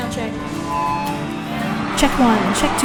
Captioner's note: cheering; feedback squeals